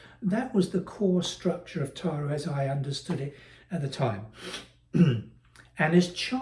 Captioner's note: cough